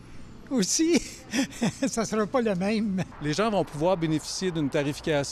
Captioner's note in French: rire